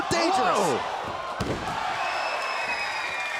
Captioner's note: Cesaro thuds; crowd cheering